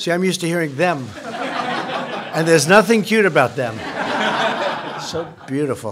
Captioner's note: laughter; laughter